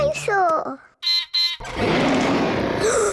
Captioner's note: beeps and roars; gasps and cries